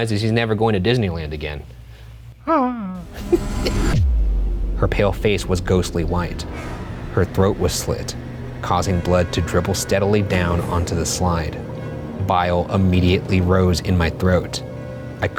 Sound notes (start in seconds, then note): 2.4 whimpering; 2.8 laughing